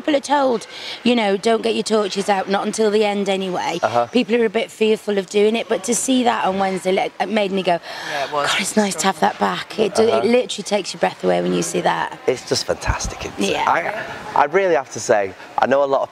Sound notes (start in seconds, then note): 7.8 gasp